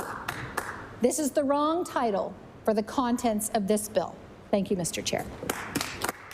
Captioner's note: some Applause